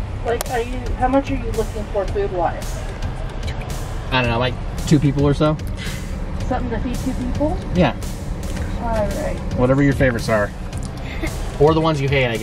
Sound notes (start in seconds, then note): 9.1 woman In Speakerphone